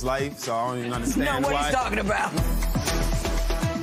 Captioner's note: laughter; suspenseful music plays